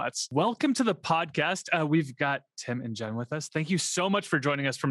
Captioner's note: none